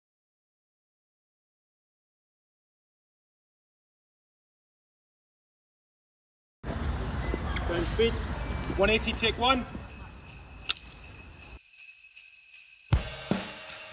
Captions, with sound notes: [CHRISTMAS SOUNDING MUSIC] Sound, speed. 180. Take one. [CLICK]